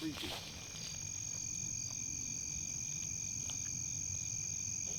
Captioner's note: crickets chirping